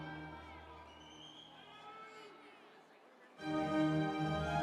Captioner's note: audience cheering